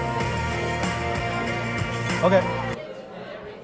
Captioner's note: upbeat music; audience discussing